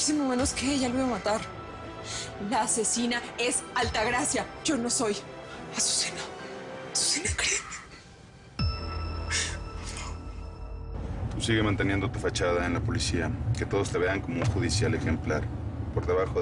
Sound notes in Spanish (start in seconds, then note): 9.3 Solloza; 9.9 Susurra